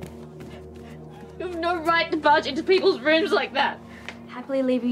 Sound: sobs

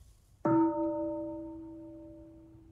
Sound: bell

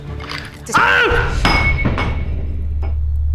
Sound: glass falling

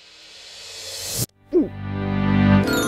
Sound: gulp

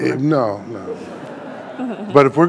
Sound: audience laughing

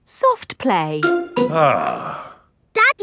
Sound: sighs

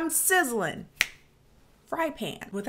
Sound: snaps fingers

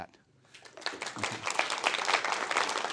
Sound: applause

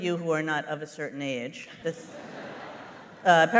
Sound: laughter

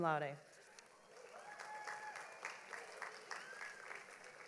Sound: audience applauds

